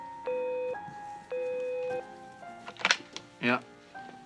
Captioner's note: phone beeps